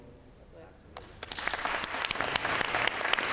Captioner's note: applause